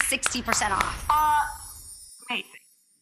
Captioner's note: clapping